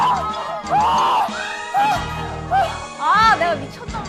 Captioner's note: flap